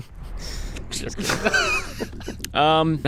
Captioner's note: all laughing